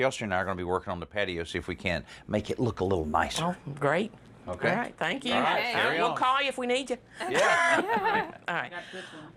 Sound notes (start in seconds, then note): 7.2 laughs